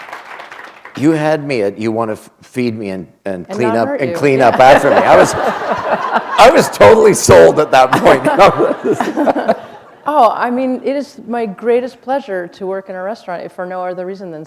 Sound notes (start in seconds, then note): 4.2 laughter